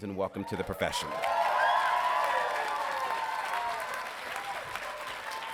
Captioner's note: audience cheering